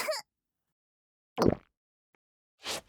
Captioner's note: Screw coughing; Gongi gulps